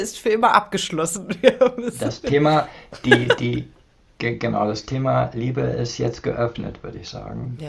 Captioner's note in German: gelächter